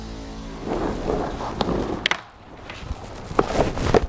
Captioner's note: suspense music; wind howls